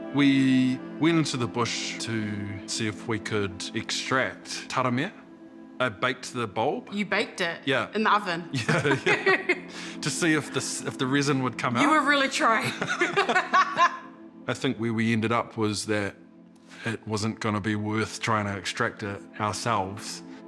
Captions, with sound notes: - We went into the bush to see if we could extract taramea. I baked the bulb. - You baked it? - Yeah. - In the oven? (LAUGHS) - Yeah. To see if the resin would come out. - You were really trying. - (BOTH LAUGH) - I think where we ended up was that it wasn't gonna be worth trying to extract it ourselves,